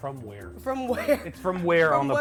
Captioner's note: laughs